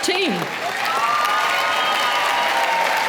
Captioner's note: applause